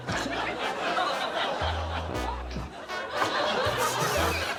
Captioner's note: audience laughs